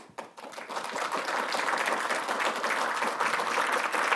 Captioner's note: applause